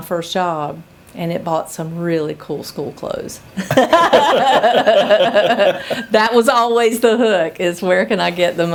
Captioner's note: laughter